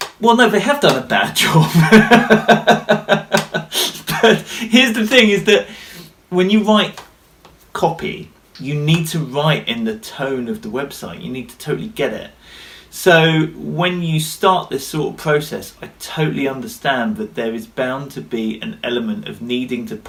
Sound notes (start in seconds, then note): 1.5 laughter